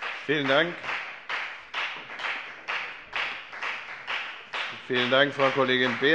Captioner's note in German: Beifall bei der FDP